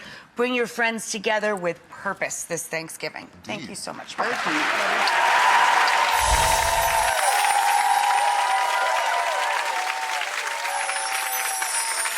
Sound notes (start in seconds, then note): 4.2 crowd cheering